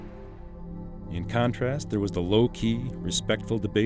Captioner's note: voiceover